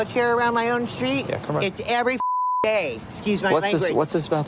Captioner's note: beep